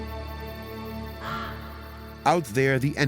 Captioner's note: crow caws